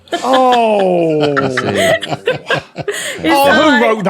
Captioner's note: laugh